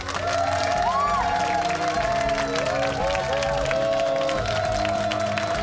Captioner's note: cheers and applause